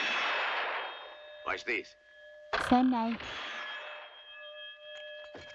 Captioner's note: gunshot, bell rings; gunshot, bell rings